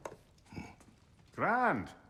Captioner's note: grunt